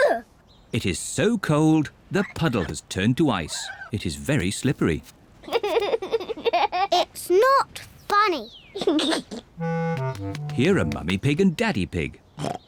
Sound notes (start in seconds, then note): 5.4 giggles; 8.7 giggles